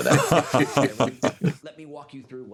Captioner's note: Begley Jr. laughs